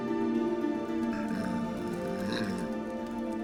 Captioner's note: growling